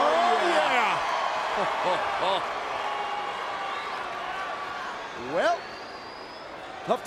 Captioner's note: applause